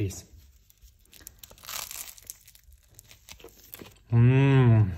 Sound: bread crunching

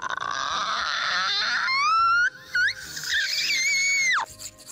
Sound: screaming; paint brushes rubbing

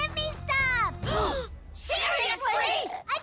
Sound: gasp

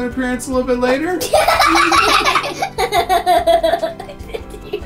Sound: laughing

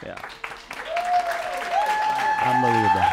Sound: applause

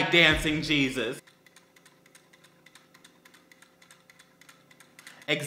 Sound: plastic clunking noises

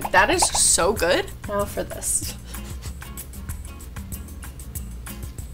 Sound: laughs

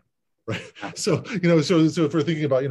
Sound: laughs

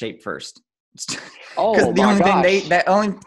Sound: laughs

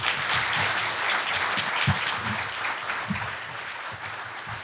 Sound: audience clapping

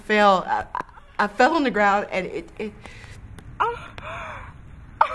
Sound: crying

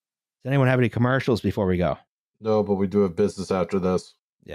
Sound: none

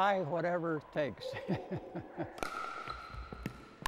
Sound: laughs

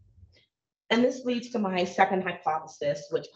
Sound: none

